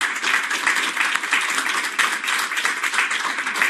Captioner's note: applause